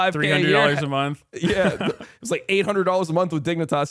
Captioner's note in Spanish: risas